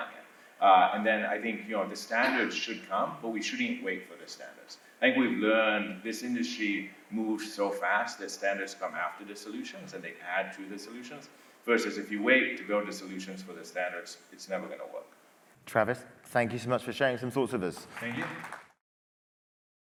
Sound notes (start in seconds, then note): 17.7 applause